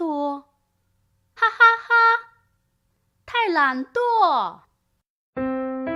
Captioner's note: laughter